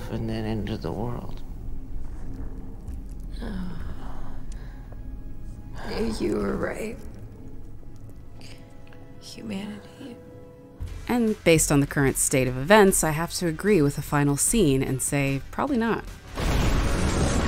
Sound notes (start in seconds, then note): 11.1 voiceover